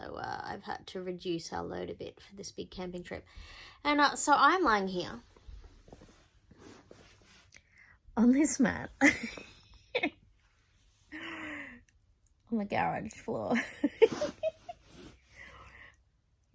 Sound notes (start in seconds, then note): 9.0 giggles; 13.5 giggles